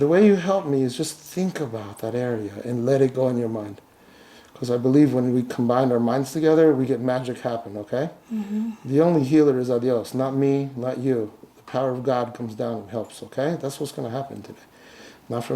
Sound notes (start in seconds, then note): 9.3 speaks in a foreign language